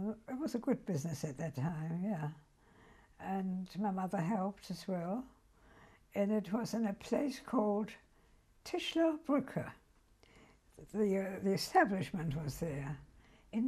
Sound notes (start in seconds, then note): 9.4 german